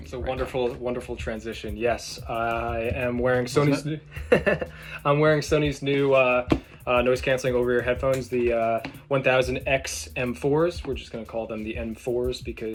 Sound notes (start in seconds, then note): 4.1 laughs